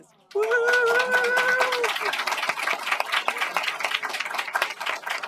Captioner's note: applause